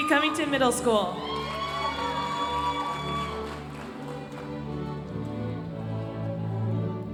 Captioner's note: audience applauding